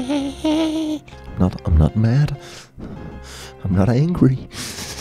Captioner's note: heavy breathing